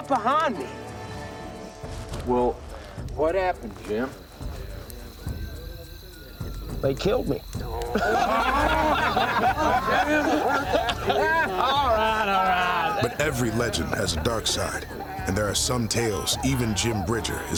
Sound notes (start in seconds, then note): 7.8 laughter